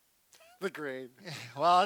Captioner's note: laughs